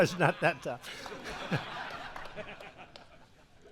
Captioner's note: laughs; laughter